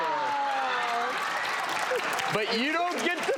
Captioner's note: applause